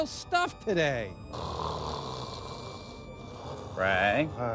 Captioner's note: muffled snoring